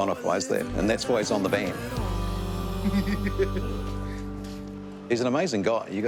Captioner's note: laughs